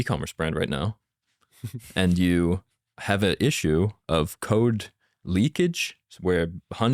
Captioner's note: laughs